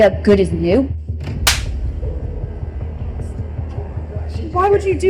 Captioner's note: hand slapping